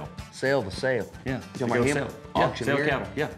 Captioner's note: none